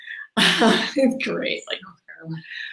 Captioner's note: laughs